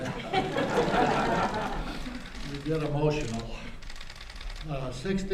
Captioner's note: laughter